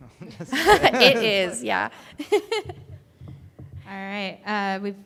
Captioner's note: laughs